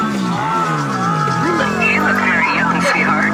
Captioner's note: voice over speaker